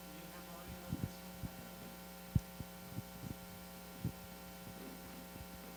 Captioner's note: talking quietly about setup